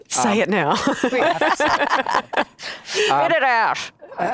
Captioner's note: both laughs